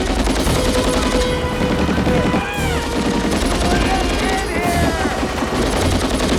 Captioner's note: shouts